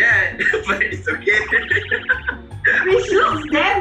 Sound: laughs

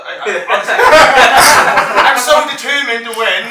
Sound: all Laughing

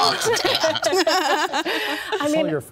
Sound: all laughing

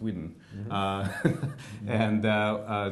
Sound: laughs

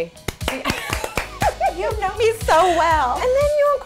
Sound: claps

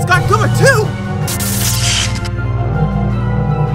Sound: electricity crackles

